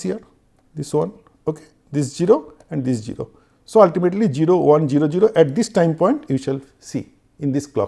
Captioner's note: Clock